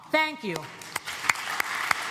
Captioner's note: applause